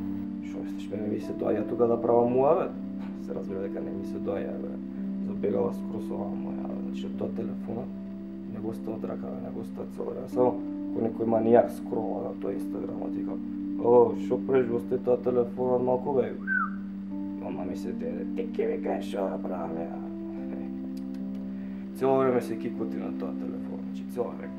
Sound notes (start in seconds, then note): 16.4 whistle